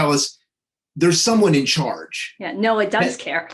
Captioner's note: chuckling